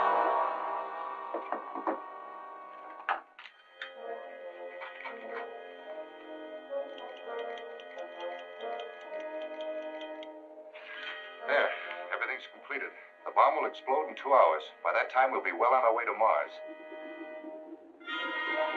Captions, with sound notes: [suspenseful music] [ticking] There, everything's completed. The bomb will explode in two hours. By that time we'll be well on our way to Mars.